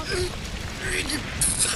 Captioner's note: straining